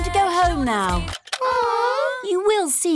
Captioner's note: music stops; all groan